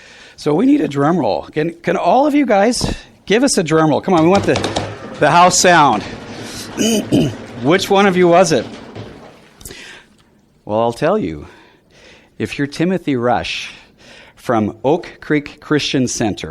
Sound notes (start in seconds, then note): 4.0 audience doing drum roll with feet and hands; 4.0 drum roll with hands on table